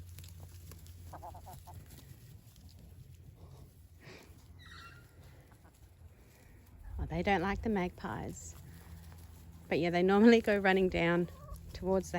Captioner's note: Magpie sings